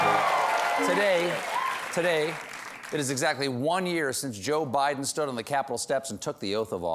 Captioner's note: cheers and applause